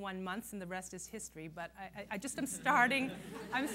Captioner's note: laughter